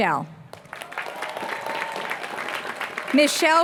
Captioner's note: applause